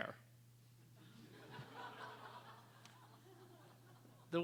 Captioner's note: laughter